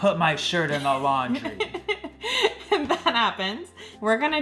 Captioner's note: laughing